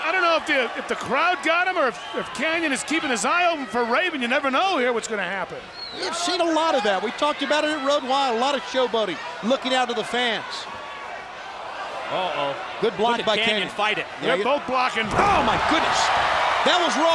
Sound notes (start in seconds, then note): 10.7 crowd cheering